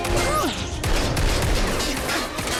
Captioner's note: grunting; gunfire